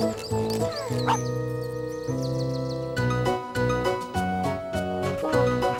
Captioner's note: barks